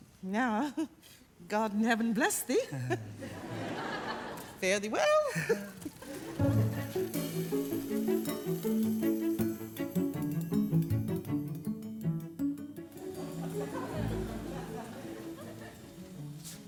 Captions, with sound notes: Now... god in heaven bless thee. Fare thee well! * [audience laugh]